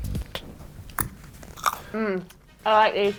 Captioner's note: chomping loudly